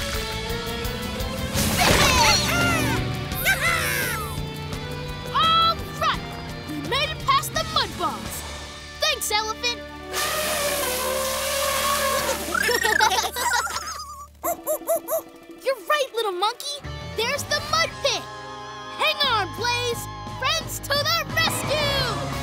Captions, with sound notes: [cheering] [cheering] Alright! We made it past the mud balls. Thanks, elephant! [trumpeting] [laughing] [hooting] You're right, little monkey. There's the mud pit. Hang on, Blaze. Friends to the rescue!